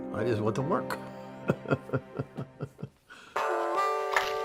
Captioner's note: laughs